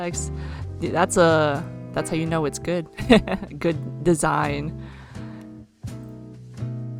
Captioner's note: laughs